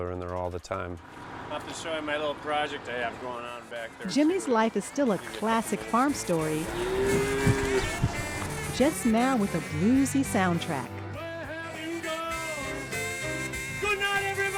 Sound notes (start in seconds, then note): 6.3 cow moos